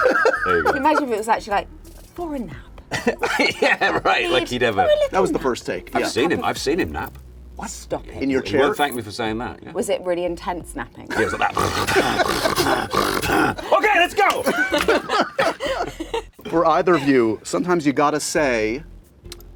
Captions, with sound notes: There you go. Can you imagine if it was actually like, for a nap. Yeah, right. Like, he'd ever. JOSH HOROWITZ: That was the first take. I've seen him. I've seen him nap. - What? - Stop it. In your chair? He won't thank me for saying that. Was it really intense napping? Yeah, it was like that [snoring aggressively] OK, let's go! [laughter] For either of you. Sometimes you gotta say--